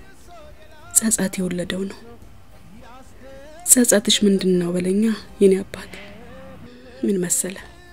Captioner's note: sighs